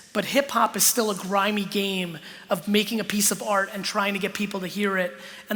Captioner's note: none